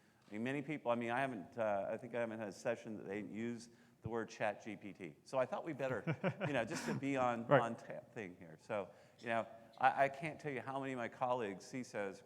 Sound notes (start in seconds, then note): 5.8 laughing